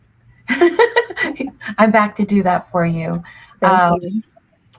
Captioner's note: laughs